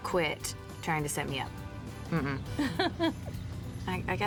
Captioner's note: ellie laughs